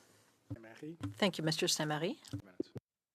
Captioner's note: speaking French